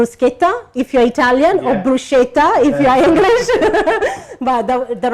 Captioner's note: laughs